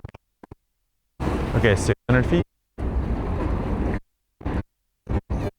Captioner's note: audio distorts